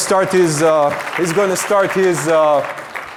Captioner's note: audience applauding